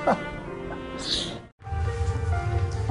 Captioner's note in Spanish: Ríe